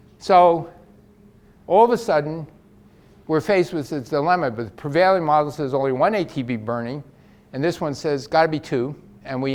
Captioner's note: none